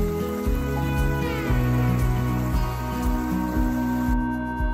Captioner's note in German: Geräusch des Baches